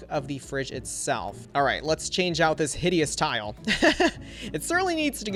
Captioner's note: laughs